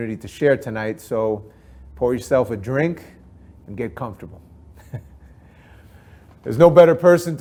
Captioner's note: chuckles